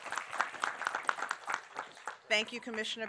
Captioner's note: applause